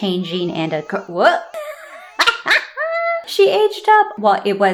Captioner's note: cackle laugh